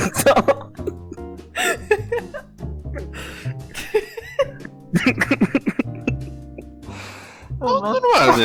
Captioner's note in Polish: śmiech